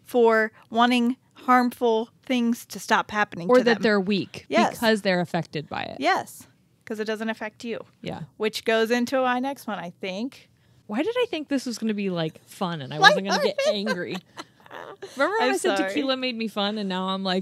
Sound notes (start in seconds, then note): 13.0 chuckles